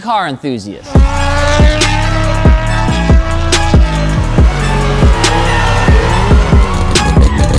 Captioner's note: mellow hip-hop music; engines screaming